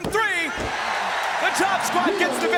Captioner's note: crowd cheers